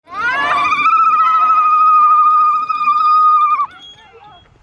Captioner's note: vibrating scream